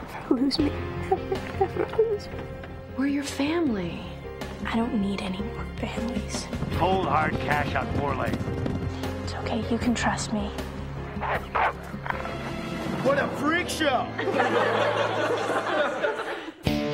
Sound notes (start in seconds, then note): 11.1 wolf growling; 14.0 crowd laughter; 16.6 rock music